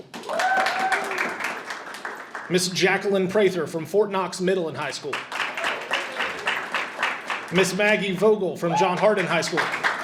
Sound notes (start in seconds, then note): 0.0 audience cheers and applauds; 5.1 audience applauds; 8.6 audience cheers and applauds